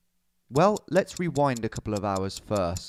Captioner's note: clock ticking